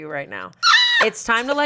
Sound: squeals

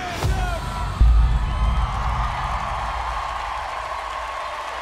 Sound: cheering, applauding

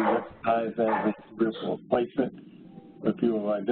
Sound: coughing

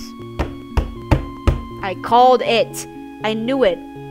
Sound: slams fist against the table 4 times

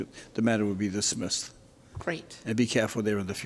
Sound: none

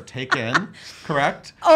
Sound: laughing

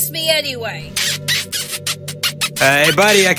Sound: smoochy smoochy

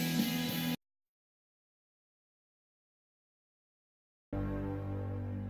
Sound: snippeted rock music playing; silence; snippeted music ends

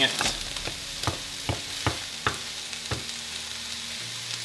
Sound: chopping

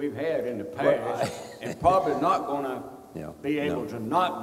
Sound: chuckles

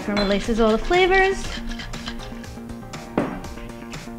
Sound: thud - Shaker placed on kitchen counter

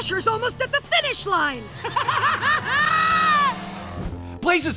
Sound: laughing

